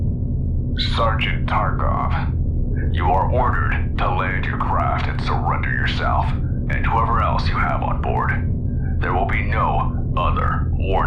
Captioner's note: over Comms